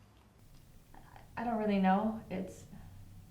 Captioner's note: stammers